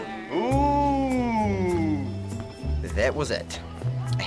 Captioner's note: makes ghostly noises